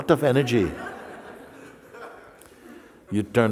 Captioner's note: Lachen